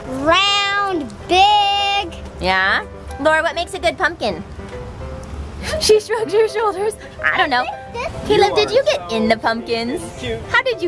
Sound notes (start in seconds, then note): 6.0 laughing